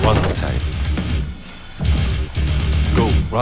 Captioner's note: gunfire